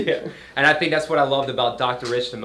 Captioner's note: laughs loudly